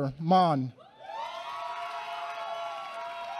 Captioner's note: applause